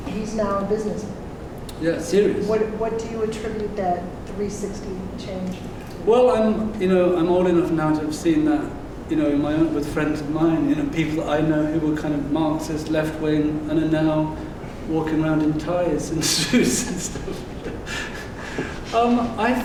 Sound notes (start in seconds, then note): 16.3 laughing